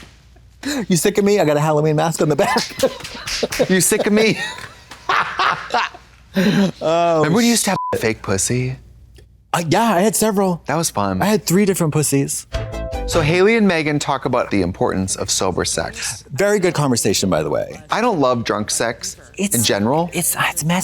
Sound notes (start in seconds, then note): 5.0 blonde Women hoot and holler; 7.7 beep; 12.6 synth bop